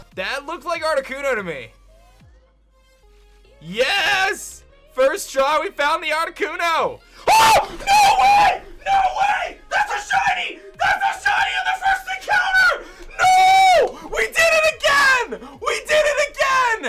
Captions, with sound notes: That looked like Articuno to me. Yes! First try. We found the Articuno! (screams) No way! No way! That's a Shiny! That's a Shiny in the first encounter! No! We did it again! We did it again!